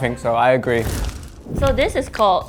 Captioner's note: fire sound effect